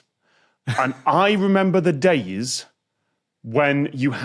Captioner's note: snickers